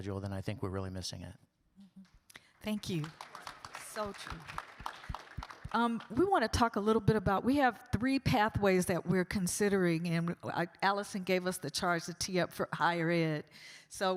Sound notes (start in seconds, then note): 4.8 audience claps